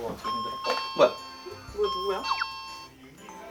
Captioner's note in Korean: 띵동